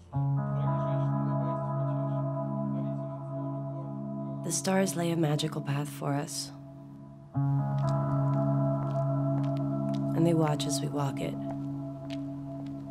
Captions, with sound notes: (gentle electronic music) The stars lay a magical path for us, (footsteps) and they watch as we walk it,